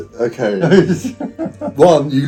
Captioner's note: laughing